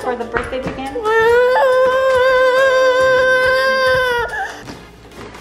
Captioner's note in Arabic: فتاة صغيرة تندح